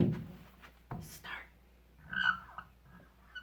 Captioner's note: mock whispers